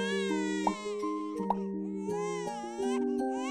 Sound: baby crying

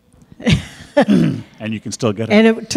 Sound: laughs

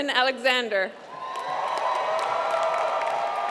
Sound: applause

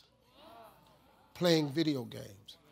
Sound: audience exclaims

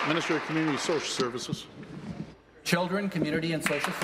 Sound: applause

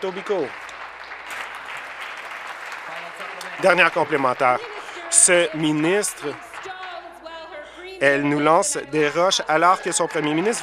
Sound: applause

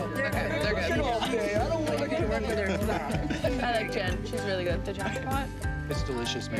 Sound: chatting

